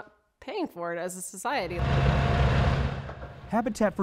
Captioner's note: bulldozer going